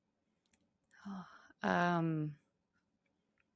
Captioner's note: sighs